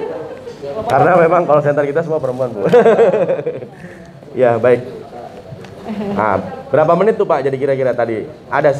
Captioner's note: laughs